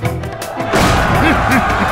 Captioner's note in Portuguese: gritos; risada